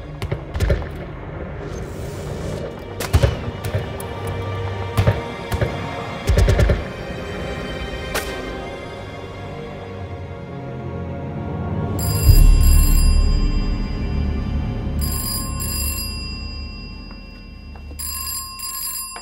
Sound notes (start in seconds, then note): 4.9 guns firing; 8.0 ominous music; 11.7 phone ringing